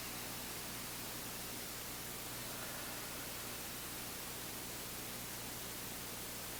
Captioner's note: both exhaling; both inhaling